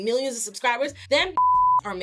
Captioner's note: beep